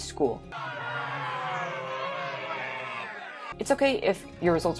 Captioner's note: people and a dinosaur jeering, moaning and screaming